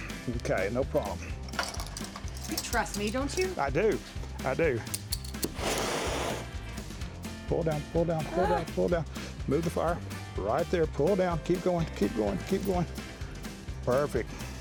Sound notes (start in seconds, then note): 4.9 flame igniting